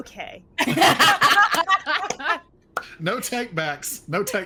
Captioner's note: everyone laughing